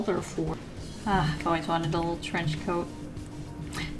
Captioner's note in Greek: Αναστεναγμός